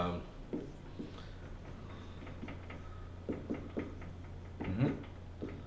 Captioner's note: marker scraping softly